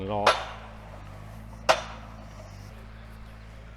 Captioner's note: metal clanks